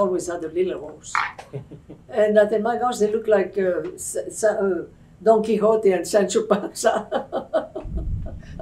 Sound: laughter; laughs

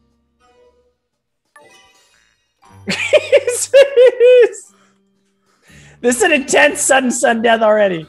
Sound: laugh

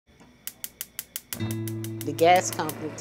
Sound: stove top clicks

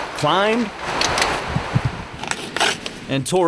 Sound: water flowing; trekking poles clattering; ripping

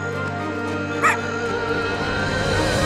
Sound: barking

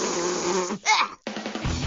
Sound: groans in disgust

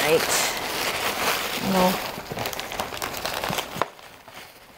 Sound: paper crumpling

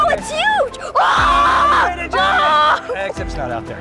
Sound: yelling loudly

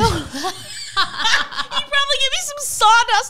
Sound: both laughing

